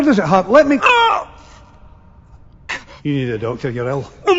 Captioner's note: screaming